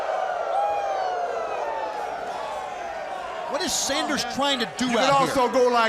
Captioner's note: crowd cheering